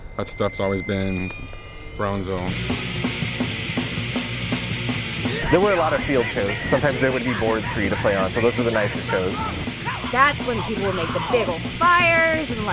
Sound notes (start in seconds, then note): 2.6 heavy metal music; 2.6 man screaming